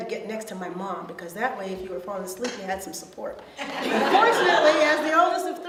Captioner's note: audience laughs